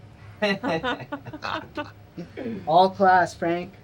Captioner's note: staff laughing